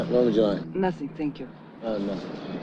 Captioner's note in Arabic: النادل يتحدث بلغة أجنبية; يتحدث باللغة الأجنبية